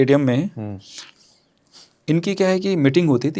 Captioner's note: nasal voice